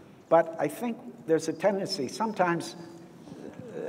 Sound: none

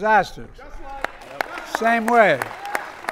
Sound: applause

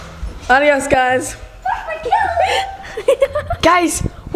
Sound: laughs

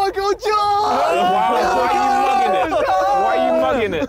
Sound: group cheering

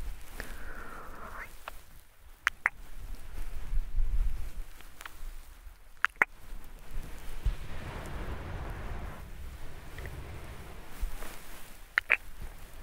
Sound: kisses sound

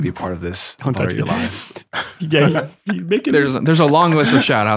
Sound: friars chuckling

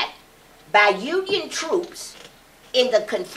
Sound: none

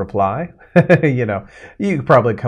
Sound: chuckles

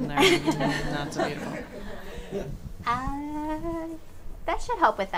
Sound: audience chuckles

